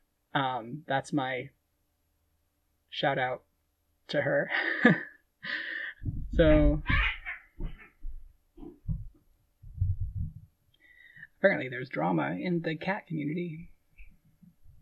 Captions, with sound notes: Um, that's my shoutout to her. [laughing] So-- [cat yowling] Apparently there's drama in the cat community